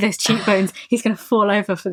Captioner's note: laghs